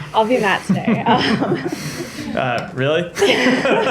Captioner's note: laughter